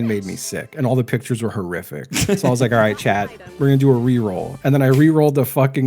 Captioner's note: laughs